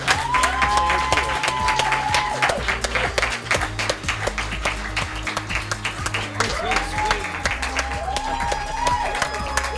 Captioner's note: applause